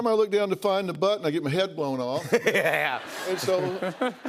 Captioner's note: laughter